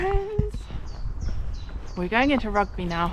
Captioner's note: bird chirping